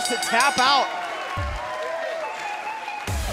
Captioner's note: bell ringing